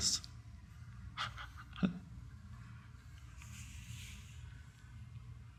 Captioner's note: Eckhart chuckling